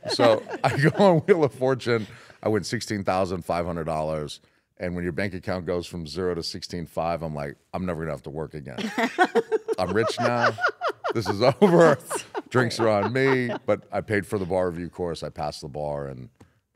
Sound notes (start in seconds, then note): 8.8 laugh